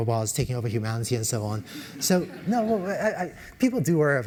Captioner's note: laugh